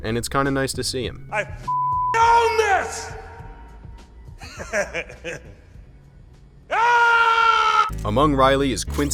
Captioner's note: chuckles